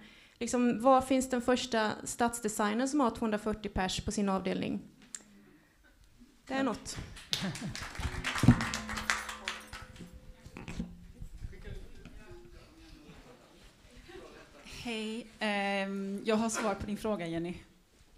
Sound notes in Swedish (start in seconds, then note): 7.0 applåder